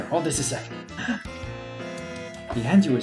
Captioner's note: gasps